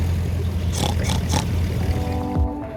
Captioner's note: pig grunting